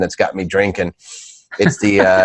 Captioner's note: laughing